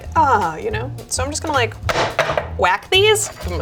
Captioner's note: taps tin